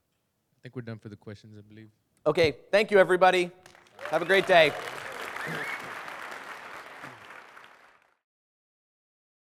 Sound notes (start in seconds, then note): 5.1 applause